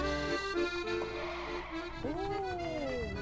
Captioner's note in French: crissement de pneus